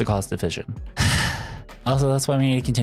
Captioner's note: sigh